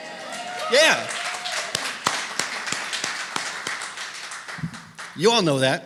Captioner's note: applause